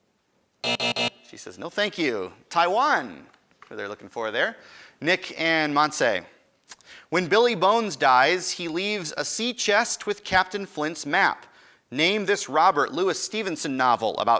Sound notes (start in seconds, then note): 0.6 end time buzzer rings